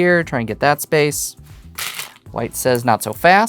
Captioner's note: stones rattling